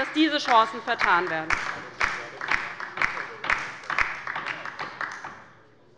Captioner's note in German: Beifall bei der LINKEN - Zuruf des Minister Boris Rhein